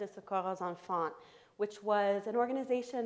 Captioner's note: foreign language spoken